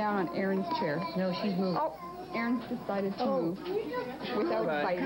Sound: laughter

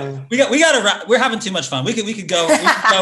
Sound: laughs

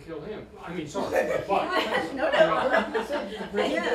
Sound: laughter

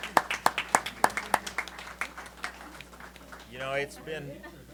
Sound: applause

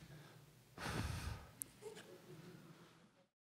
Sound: blows

